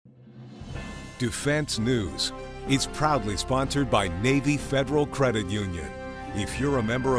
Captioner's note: voiceover